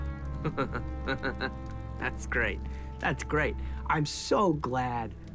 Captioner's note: chuckles